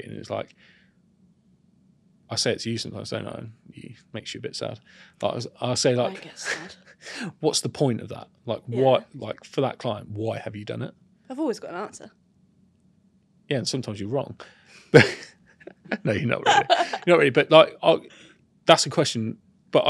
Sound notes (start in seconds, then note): 15.6 laughs